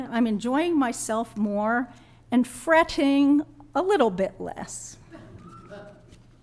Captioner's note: laughter